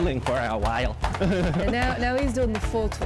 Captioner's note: laughs